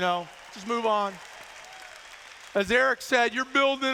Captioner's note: applause